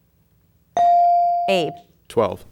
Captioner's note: bell dinging